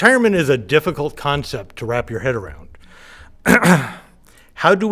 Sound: coughs

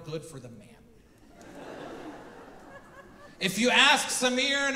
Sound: audience laughing

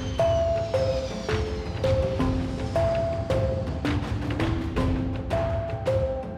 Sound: airplane landing

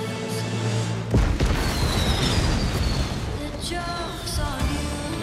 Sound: explosion

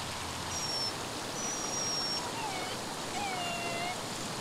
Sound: dog whimpers

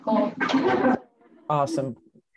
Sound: group laughs

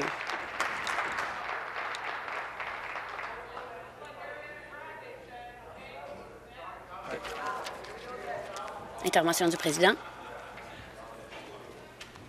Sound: applause

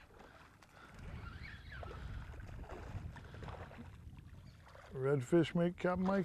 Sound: splashing

